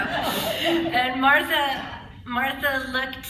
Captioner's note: laughter